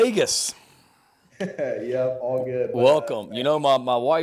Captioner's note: laughs